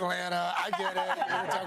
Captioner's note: laughter